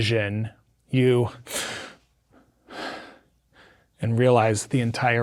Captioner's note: gasps